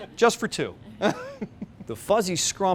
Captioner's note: laughs